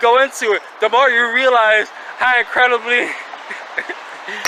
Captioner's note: chuckling